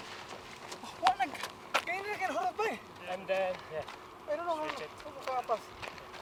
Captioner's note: speaking in foreign language